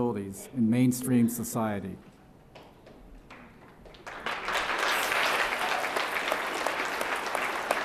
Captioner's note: applause